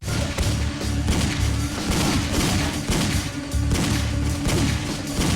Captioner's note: gunshots booming; tense dramatic music